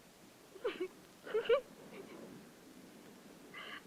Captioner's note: giggling